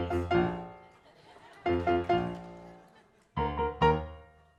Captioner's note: audience laughing